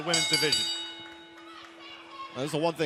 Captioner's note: bell ringing